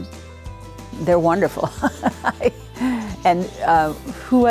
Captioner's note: laughs